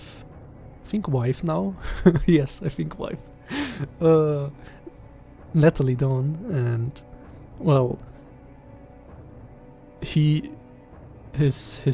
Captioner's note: laughs because of shame